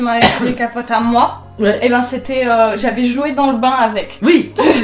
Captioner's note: laughter